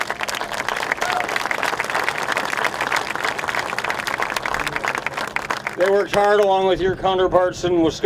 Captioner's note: applause